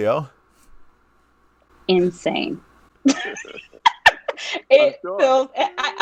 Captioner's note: laughing